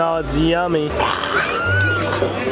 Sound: growls; squeals

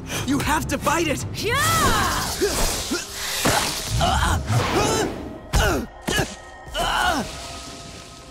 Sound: grunting

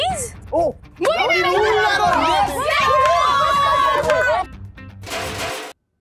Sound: cheering

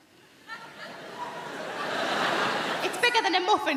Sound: crowd laughing

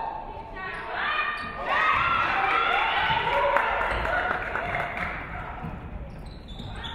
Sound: audience clapping; audience cheering

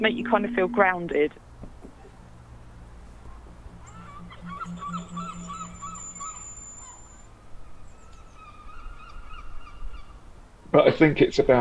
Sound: seagulls

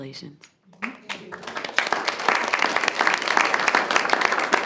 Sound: group applauds

